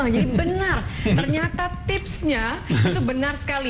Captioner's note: non-english speech